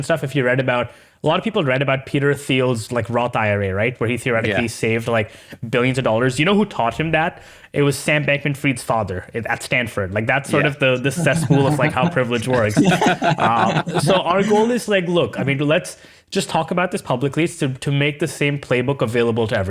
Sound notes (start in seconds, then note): 12.4 laughing